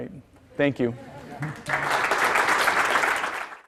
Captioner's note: applause